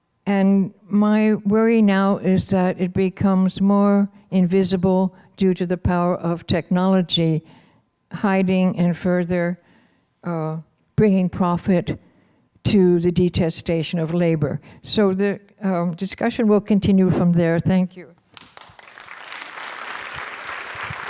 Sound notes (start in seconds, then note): 18.2 applause